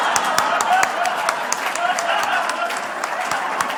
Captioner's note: laughter/Applause